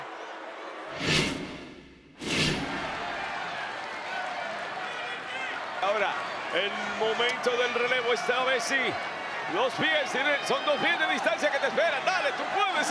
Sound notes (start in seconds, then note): 0.8 applause